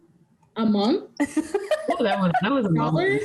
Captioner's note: laughing